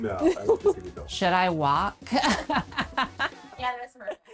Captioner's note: laughs